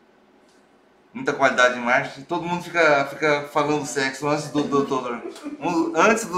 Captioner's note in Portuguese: risos